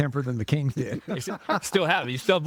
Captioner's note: laughing